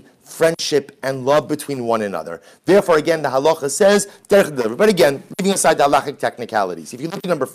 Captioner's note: Hebrew